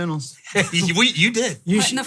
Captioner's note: laughing